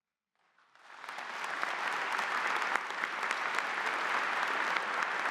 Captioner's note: audience applauding